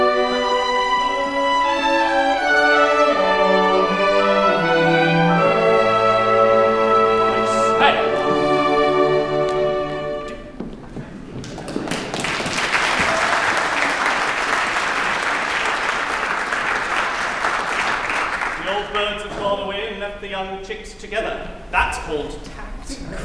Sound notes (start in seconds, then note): 11.4 applause